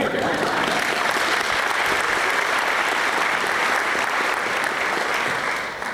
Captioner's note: applause